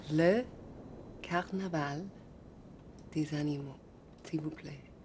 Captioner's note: French spoken audio